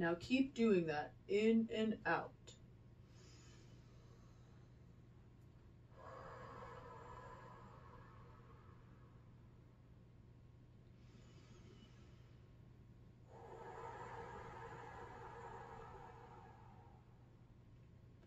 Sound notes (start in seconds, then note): 3.4 inhales; 5.9 exhales; 10.1 inhales; 13.2 exhales